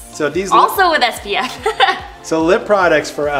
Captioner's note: giggles